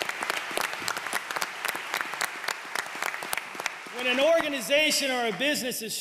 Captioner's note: applause